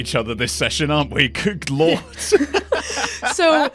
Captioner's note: laughs